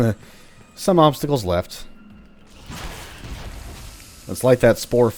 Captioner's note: fwooshing commences one last time